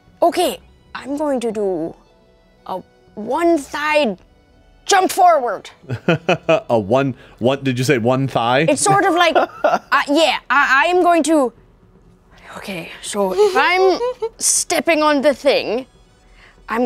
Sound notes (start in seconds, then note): 8.8 laughs